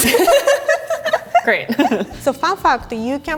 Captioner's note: both laughing